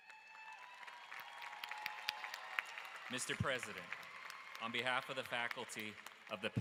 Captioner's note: applause